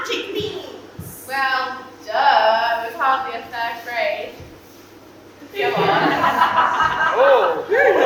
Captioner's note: audience laugh